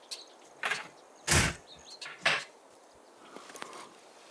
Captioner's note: door slams